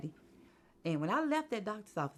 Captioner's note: none